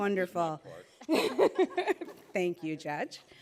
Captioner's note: laughing